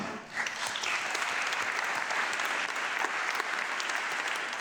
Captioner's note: audience clapping